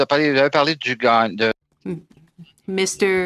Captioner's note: speaking French